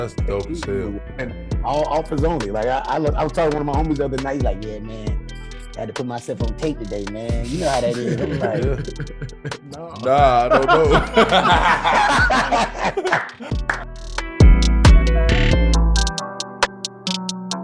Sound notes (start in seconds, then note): 12.9 everyone laughing; 14.9 uptempo music